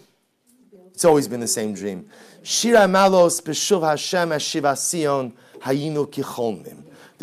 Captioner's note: Hebrew